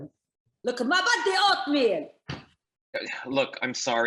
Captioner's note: speaks in foreign language